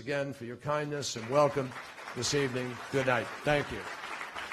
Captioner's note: applause